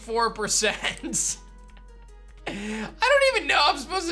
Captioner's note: giggles